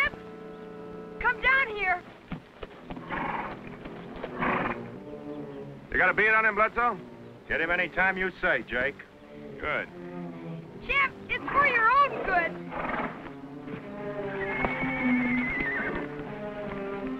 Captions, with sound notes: Champ, come down here. - You got a beat on him, Pletzo? - Hit him anytime you say, Jake. - Good. - Champ, it's for your own good. (horse neighs)